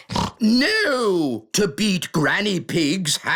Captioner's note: snorts